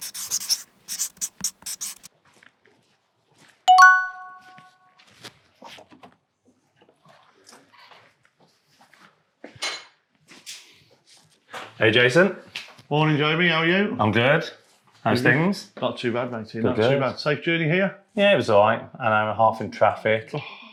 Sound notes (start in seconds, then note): 0.0 footsteps crunching; 0.0 marker squeaking; 3.6 bell chiming